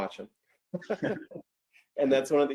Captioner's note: laughs